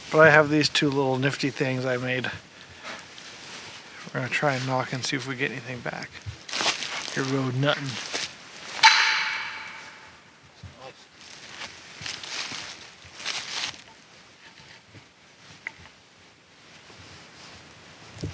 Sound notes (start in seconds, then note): 8.8 whacks device; 11.4 leaves crunch